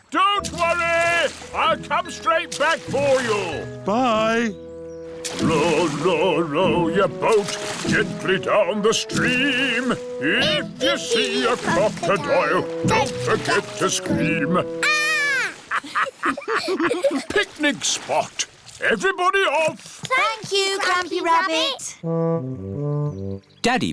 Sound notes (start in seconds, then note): 15.3 laughter